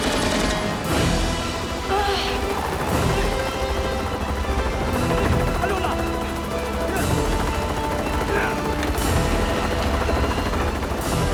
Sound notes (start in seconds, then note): 4.8 Korean